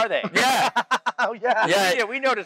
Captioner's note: laughs